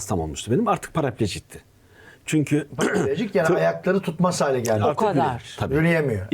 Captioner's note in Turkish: boğazını temizler